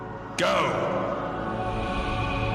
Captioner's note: none